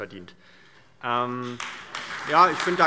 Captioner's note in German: Allgemeiner Beifall